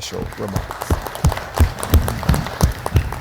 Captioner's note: applause